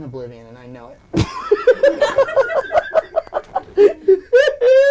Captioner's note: laughing